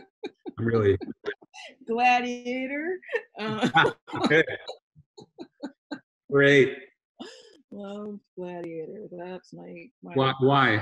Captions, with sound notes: Really. - "Gladiator". (both laughing) - Great. - Well gladiator. That's my-- - What, why?